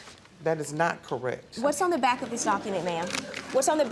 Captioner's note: audience laughs